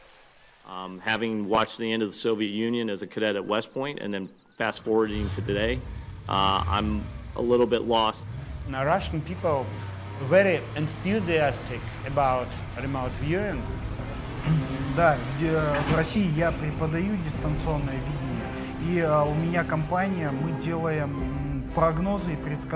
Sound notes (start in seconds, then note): 14.6 speaking russian